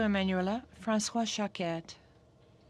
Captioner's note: speaking French